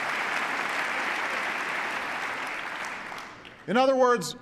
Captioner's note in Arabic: تصفيق